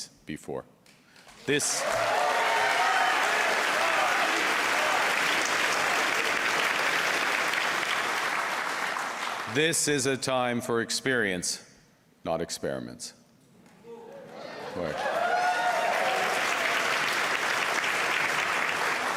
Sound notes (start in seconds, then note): 4.0 cheers and Applause; 9.8 applause